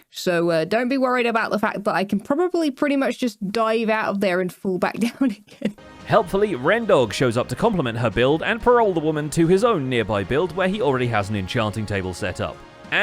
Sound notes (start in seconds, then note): 5.0 laughs